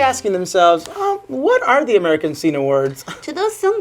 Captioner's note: scoffs